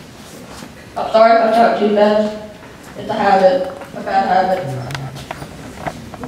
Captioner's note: applause